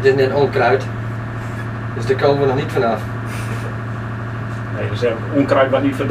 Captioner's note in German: lacht